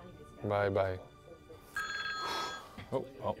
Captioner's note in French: sonnerie